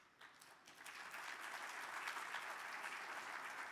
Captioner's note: audience claps